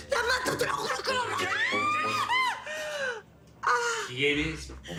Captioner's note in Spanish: Grito